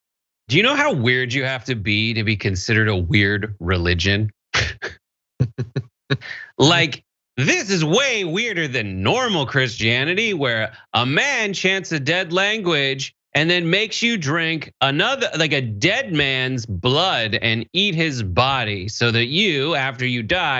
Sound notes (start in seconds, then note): 5.4 laugh